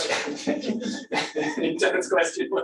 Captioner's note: laughter